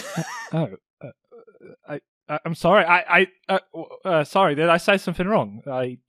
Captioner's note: Alyssa laughs; stutters